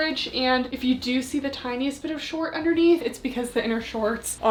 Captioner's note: none